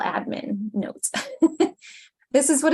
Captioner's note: chuckles